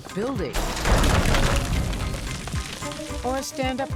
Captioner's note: building crashes down